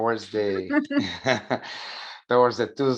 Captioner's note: chuckles